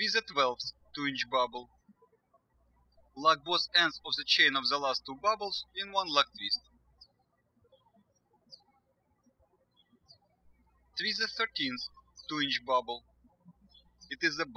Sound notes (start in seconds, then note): 8.4 birds chirping